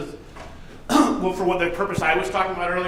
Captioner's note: coughs